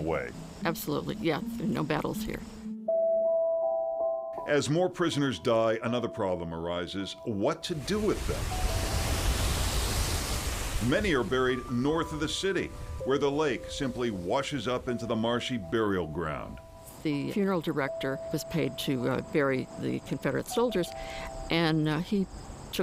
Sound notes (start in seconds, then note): 10.3 water rushing